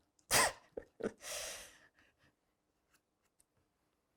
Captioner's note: laughing